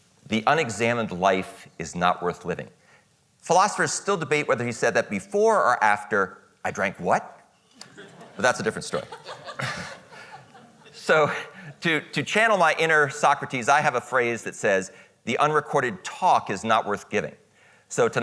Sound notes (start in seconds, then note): 7.8 audience laughing